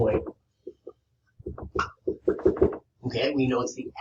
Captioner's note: board tapping